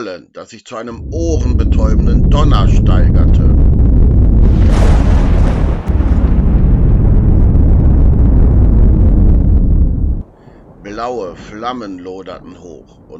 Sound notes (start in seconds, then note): 4.8 rumbling and thundering